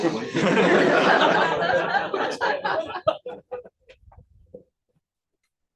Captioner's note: laughter